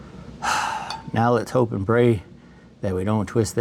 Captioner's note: exhales